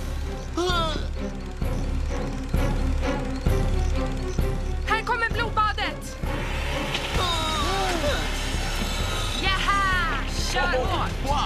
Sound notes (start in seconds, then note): 0.0 gasps; 6.2 chainsaw revving; 7.5 gasps